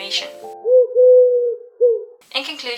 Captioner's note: pigeon noise